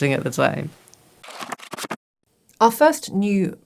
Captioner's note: pages flipping